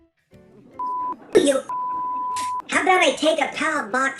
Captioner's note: beep